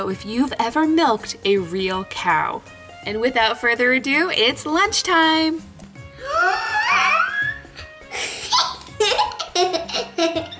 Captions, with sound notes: if you've ever milked a real cow. And without further ado, it's lunch time. (shrieking) (laughing)